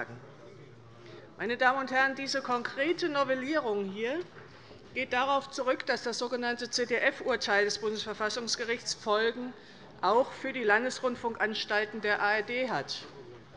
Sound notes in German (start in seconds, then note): none